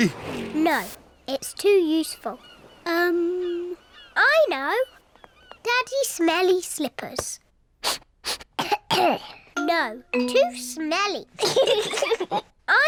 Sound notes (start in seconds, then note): 7.8 sniffs and coughs; 11.4 both laugh